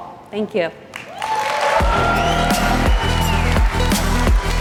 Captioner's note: applause/music playing